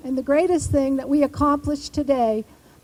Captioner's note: none